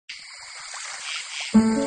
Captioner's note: crickets